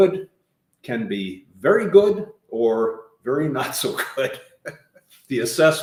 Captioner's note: laughing